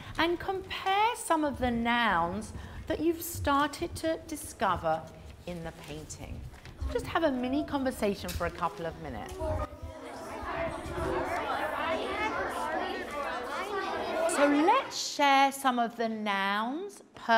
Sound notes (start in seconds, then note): 8.6 indistinct chatter